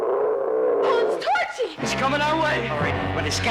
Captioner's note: dinosaur roaring